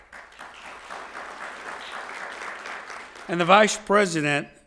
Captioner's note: audience applauding